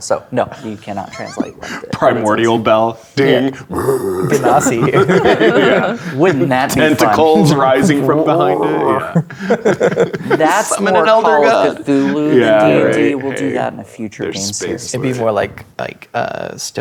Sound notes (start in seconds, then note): 3.6 roars; 3.6 laughs; 8.4 roaring; 12.6 laughs